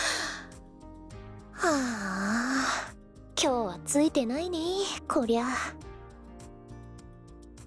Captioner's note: sigh